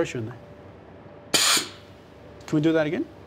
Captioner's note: robot zaps